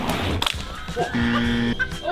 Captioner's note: lively music; wheels whooshing; laughing; bell buzzing